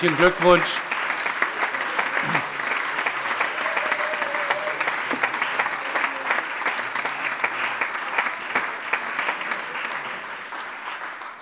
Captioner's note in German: Allgemeiner Beifall